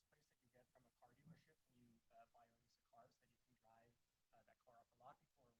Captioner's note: faintly speaking